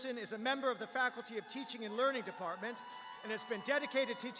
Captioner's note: cheers